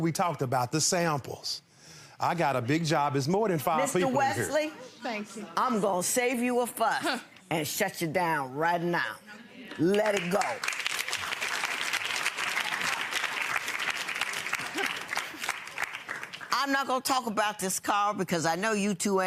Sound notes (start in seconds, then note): 9.7 applause